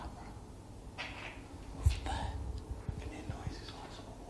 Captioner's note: whispering